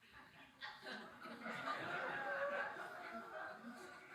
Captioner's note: audience laughing